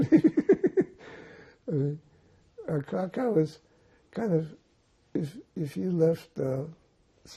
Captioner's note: laughing